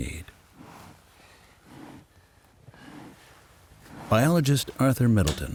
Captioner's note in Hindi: गहरी तीव्र साँस की आवाज़